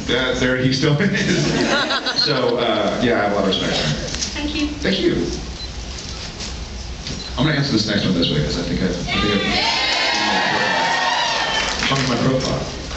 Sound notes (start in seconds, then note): 1.3 laughing; 9.1 cheers